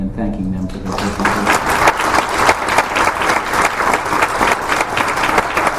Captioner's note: applause